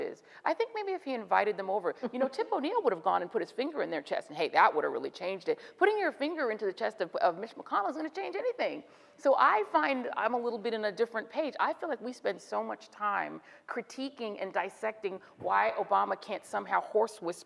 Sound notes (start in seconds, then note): none